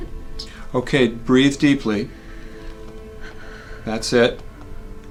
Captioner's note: woman breathing